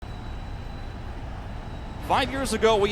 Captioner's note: crowd whistling